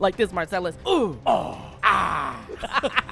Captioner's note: grunting; laughter